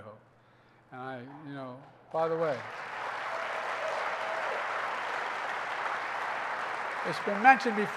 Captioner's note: applause